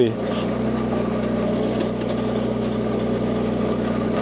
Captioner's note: loader rumbles